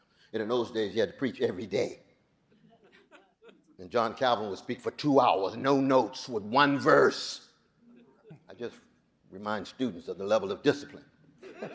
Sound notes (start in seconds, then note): 2.7 audience chuckling; 11.4 audience laughing